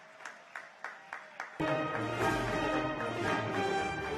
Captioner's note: cheers and applause